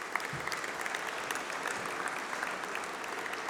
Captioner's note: applause